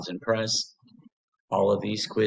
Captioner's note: pause